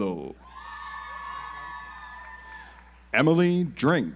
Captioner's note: audience applauds